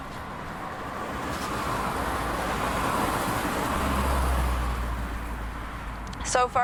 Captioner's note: traffic noise